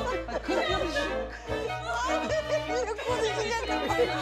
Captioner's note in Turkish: Gülme sesleri